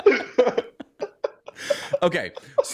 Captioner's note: laughter